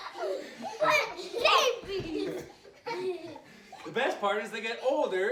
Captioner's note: kids laughing